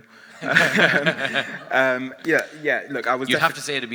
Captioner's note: all laughing